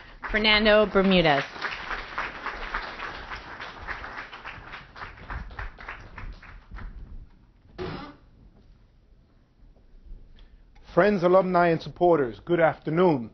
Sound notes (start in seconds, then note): 4.3 clapping